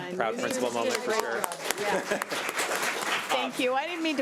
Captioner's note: audience applauds